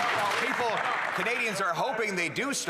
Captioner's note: applause